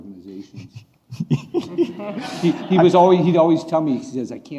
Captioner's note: laughing